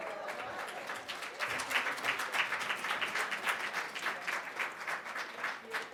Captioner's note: audience applauding